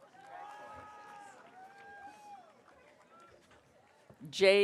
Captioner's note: audience cheering